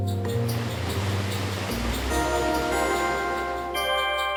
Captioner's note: water running; light music